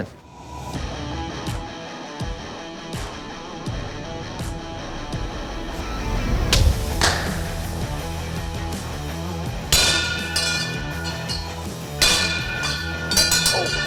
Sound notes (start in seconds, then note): 0.3 heavy metal music; 9.5 chimes clanging